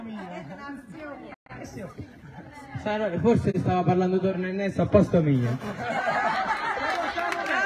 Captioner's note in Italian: Applauso